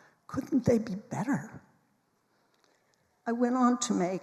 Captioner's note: none